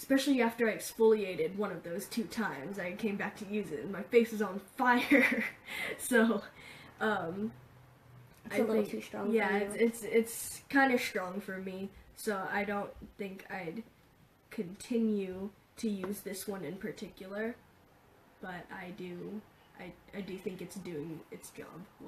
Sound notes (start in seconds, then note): 4.9 laughing